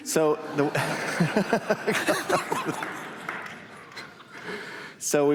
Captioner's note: laughter